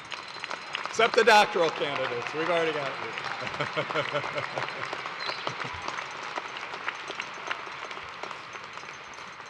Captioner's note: laughter